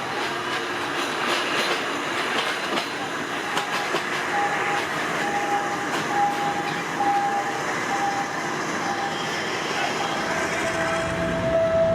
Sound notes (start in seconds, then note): 0.7 rail squeals; 4.9 train honks